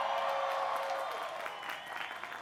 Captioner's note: applause